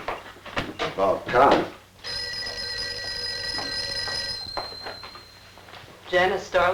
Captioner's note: phone ringing